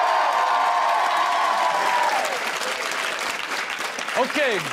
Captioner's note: audience cheering; audience clapping